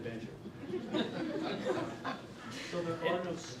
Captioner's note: laughing